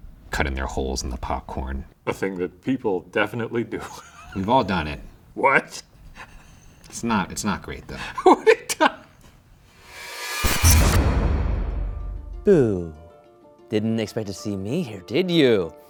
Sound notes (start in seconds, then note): 3.7 laughs; 8.0 laughing; 10.0 electrical buzzing